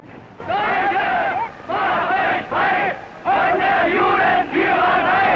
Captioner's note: chanting in foreign language